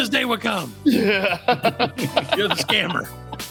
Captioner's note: laughing